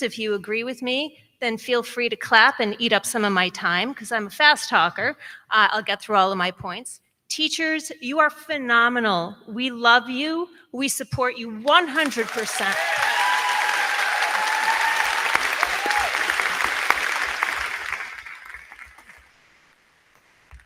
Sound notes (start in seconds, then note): 11.7 crowd clapping